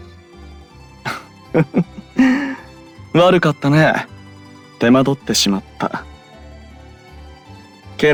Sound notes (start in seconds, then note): 1.5 laugh